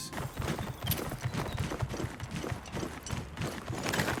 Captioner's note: mount stomping